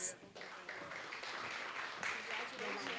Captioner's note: applause